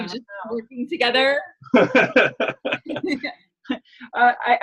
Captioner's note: laughing